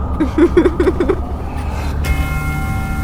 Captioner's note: creepy giggles